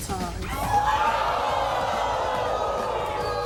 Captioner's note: crowd yells